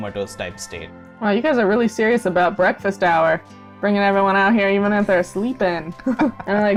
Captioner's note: laughter